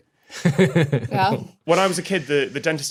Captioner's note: chuckles